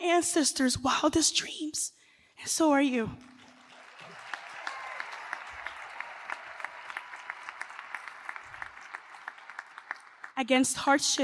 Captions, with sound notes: I am my ancestors' wildest dreams, and so are you. [ Applause ]